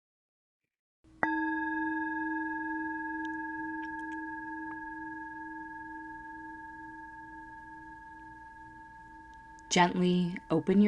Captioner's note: chime